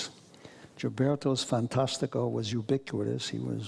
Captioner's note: speaks foreign language